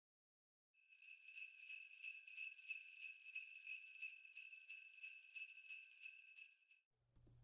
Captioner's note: sleigh bells